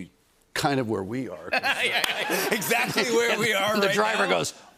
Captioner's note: laughter